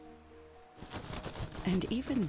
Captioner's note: wings flapping